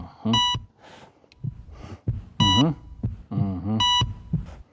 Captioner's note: beeping; beeping